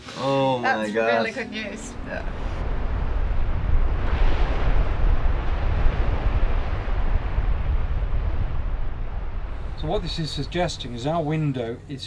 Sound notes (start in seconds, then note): 3.0 waves crashing; 3.0 wind blowing